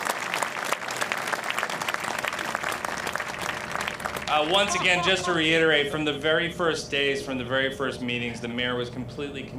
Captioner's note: applause